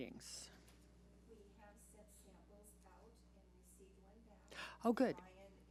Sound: speaking quietly

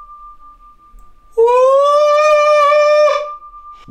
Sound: shouting sound

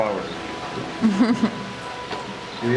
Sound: laughing

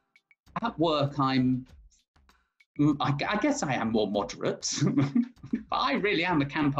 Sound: laughs

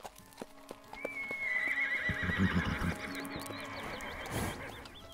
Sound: horses neighing

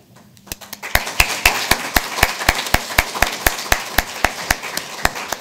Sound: audience applauding

